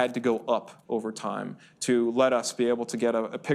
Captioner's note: none